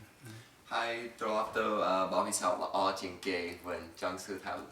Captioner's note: in Khmer